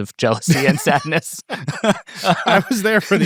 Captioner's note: people laughing